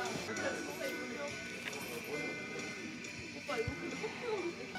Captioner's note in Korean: 오열